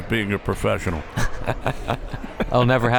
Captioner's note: both laughs